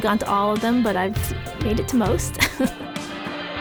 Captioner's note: laughs